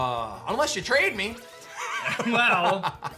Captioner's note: chuckles